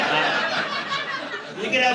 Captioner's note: laughter